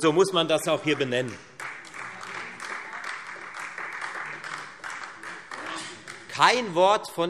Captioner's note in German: Beifall Freie Demokraten und vereinzelt DIE LINKE